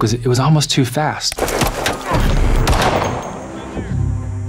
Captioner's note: gun popping